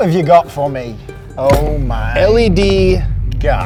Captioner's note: thump